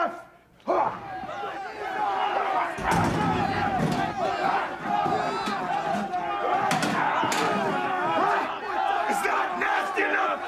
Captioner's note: crowd chatter